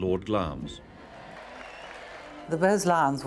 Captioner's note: crowd cheering